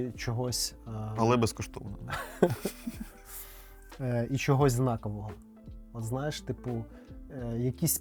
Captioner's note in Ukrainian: сміх